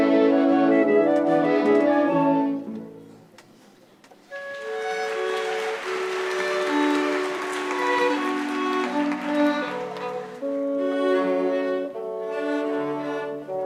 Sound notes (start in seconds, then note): 4.3 audience applauds; 9.5 fast-paced orchestral music